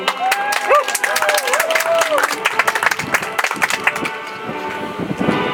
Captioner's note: audience applauds; soft music